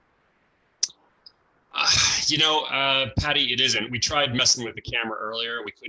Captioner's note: sighs